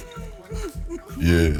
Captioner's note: laughs